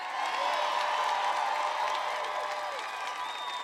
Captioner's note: applause